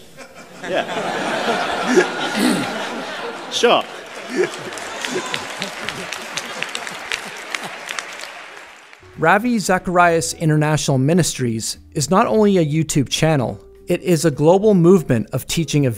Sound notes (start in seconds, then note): 2.2 audience laughter; 4.5 audience applause